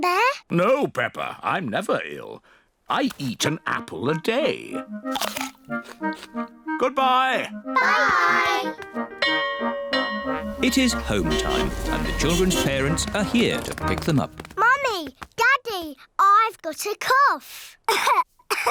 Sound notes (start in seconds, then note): 9.2 bell rings; 18.5 coughs